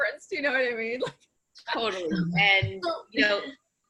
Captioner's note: laughing